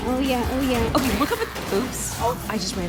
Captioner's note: car crashes